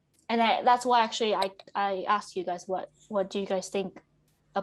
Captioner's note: none